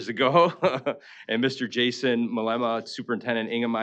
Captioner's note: chuckling